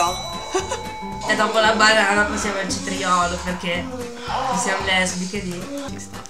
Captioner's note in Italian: ironico